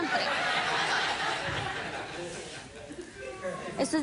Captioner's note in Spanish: Risas del público